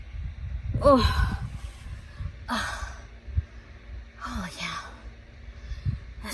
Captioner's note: sighs